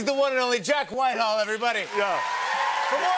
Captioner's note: cheers and applause